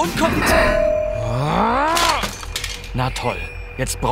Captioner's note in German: Genervtes Grummeln, Plastikscheppern